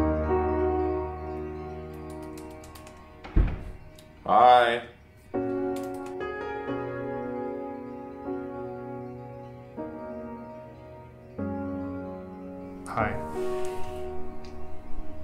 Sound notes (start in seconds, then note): 1.9 keyboard keys clattering; 3.2 door shuts